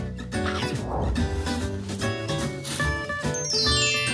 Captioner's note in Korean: 하압